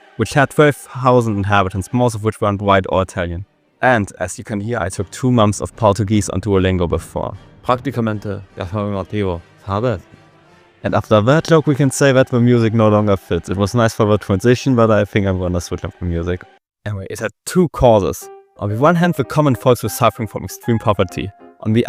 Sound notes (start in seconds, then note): 9.6 Spanish